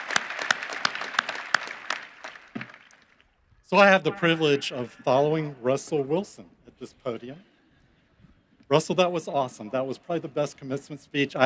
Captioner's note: cheering and applause